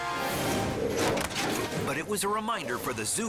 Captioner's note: tripod crashes